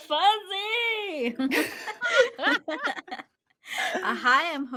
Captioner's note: all laughing